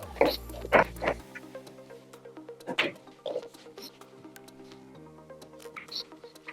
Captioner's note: lively music; balls clanging